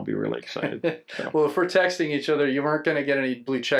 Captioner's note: laughs